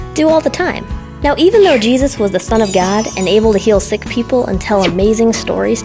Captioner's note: chimes